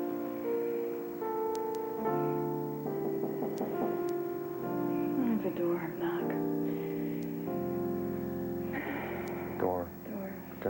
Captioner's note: knock on door